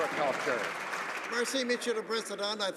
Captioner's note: some Applause